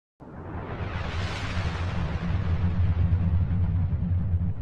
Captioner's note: air whooshing